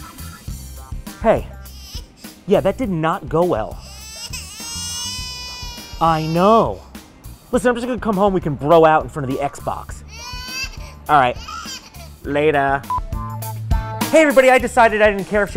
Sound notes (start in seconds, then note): 3.6 baby crying on phone